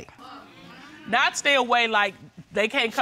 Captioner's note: none